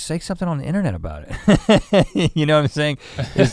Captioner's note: laughs